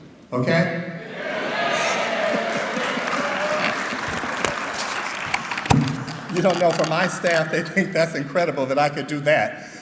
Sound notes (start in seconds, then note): 2.2 clapping